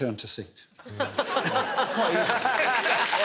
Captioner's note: laughter, applause